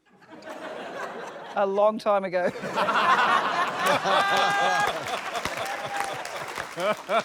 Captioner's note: laughter; laughter, applause; chuckles